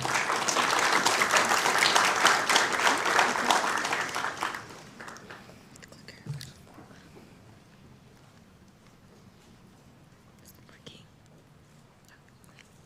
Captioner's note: applauding